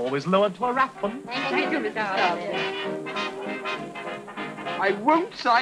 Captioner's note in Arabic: الناس يتحدثون بصوت خافت